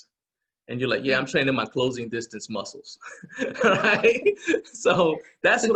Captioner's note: laughing